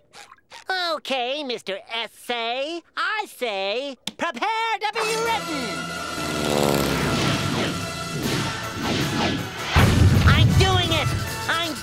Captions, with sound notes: Okay, Mr. Essay, I say... Prepare to be written! [airplane engine noise] I'm doing it! I'm doing it!